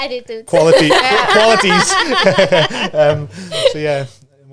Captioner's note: laughs